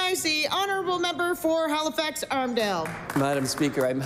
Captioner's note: applause